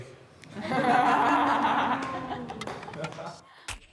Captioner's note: group laughing